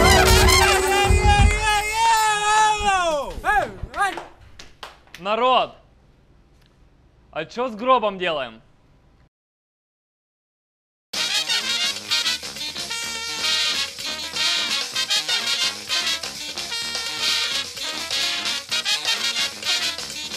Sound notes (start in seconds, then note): 0.0 people shouting and clapping